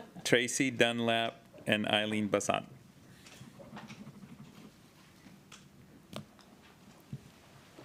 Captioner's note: laughter